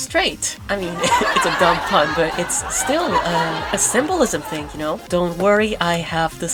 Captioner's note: laugh track